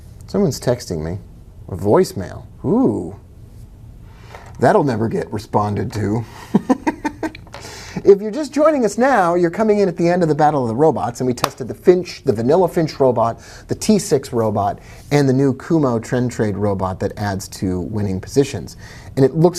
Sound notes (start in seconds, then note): 6.3 laughing